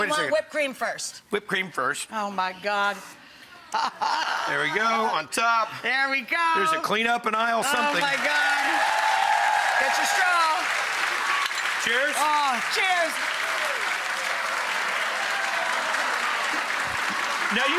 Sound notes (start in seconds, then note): 8.9 audience cheering and clapping; 11.4 glasses clink; 13.8 audience clapping